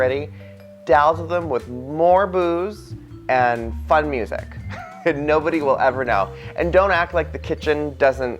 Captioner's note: laughs